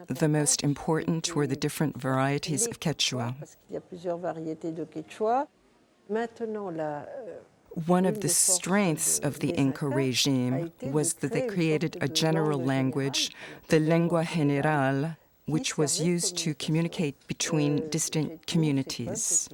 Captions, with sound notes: The most important were the different varieties of Quechua. [French spoken audio] One of the strengths of the Inca regime was that they created a general language, the lingua generale, which was used to communicate between distant communities.